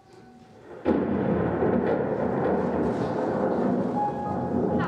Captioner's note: thunderclap